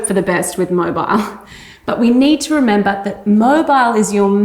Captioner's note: chuckles